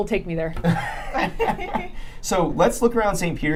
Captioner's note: laughing